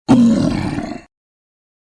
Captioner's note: troll Growling